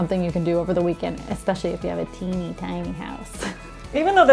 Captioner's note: laughs